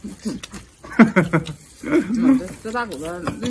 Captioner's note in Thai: หัวเราะ